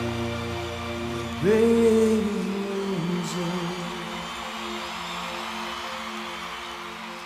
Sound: audience cheering

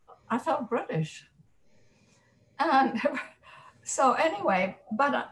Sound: chuckles

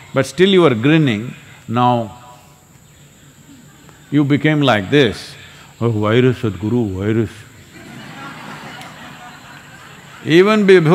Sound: laughter

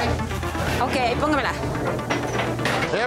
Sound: speaking in foreign language

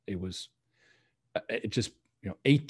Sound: none

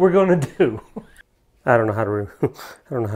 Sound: laughs

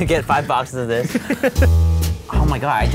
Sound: laughs

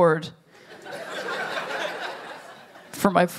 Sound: laughter

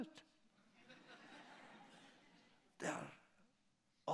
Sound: laughter

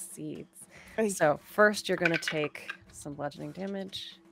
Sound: dice clatter

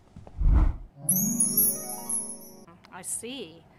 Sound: magic noises

